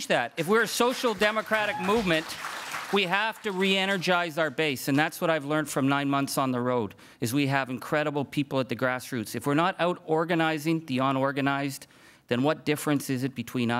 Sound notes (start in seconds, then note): 2.4 crowd cheering and applauding